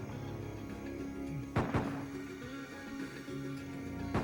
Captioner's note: gun shots in distance